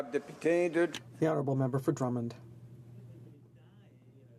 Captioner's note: speaking in french